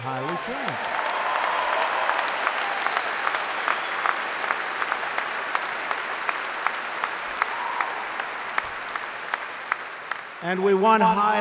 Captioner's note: applause